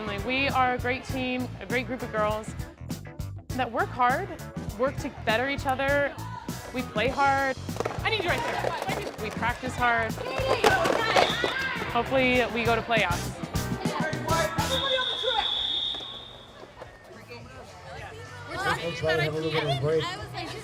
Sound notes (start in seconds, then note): 14.6 whistle; 17.0 general conversation